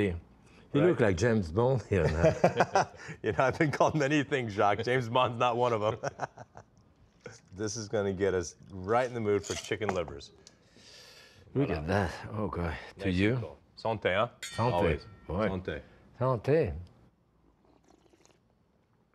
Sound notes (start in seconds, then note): 1.8 laughs; 5.8 Jacques laughs